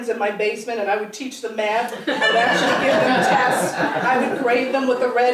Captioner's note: laugh